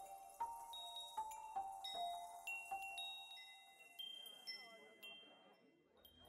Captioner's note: chimes jingling